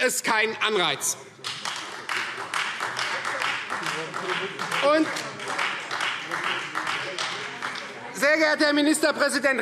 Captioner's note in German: Beifall Freie Demokraten